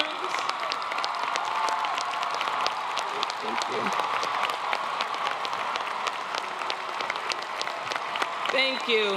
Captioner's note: applause